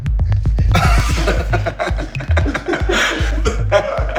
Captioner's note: laughing